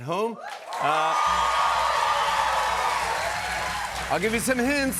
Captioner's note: cheers and applause